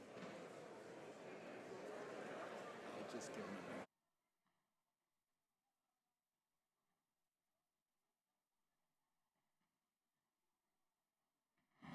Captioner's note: some Applause